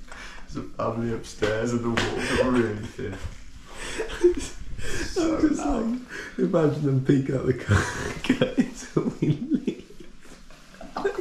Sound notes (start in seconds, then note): 7.6 both laughing